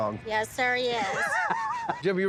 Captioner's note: laughing